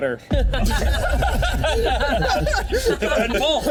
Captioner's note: all laughing